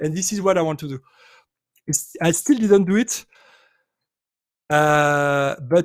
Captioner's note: none